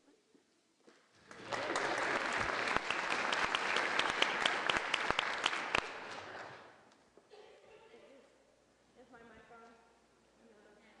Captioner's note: applause